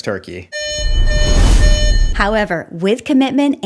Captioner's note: fire alarm blares